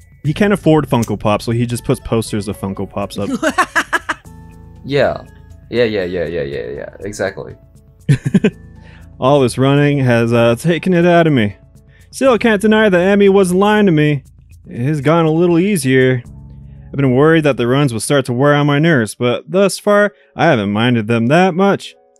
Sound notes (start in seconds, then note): 3.2 cackles